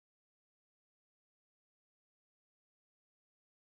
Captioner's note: none